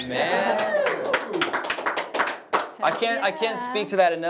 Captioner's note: applause